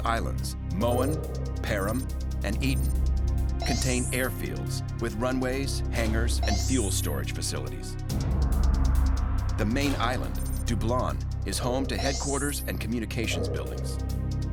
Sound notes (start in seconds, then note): none